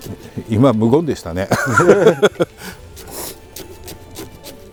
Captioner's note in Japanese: 笑い